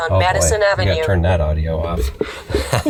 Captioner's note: laughs